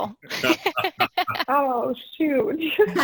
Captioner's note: group laughs